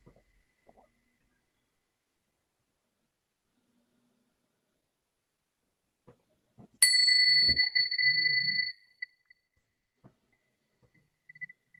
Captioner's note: bells ringing